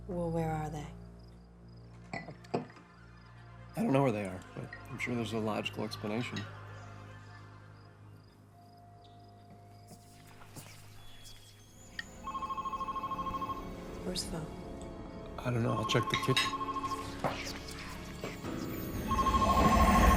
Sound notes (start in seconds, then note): 2.8 ominous music; 10.3 ominous whispers; 12.1 phone ringing; 17.2 ominous whispers